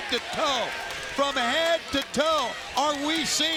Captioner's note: crowd clamoring